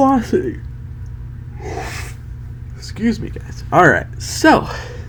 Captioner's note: yawns